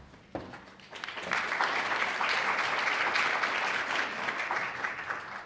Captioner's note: audience clapping